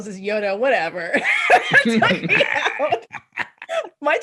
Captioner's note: laughter